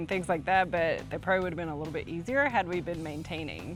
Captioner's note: none